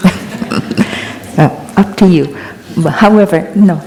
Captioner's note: laughter